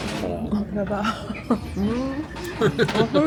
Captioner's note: laughs awkwardly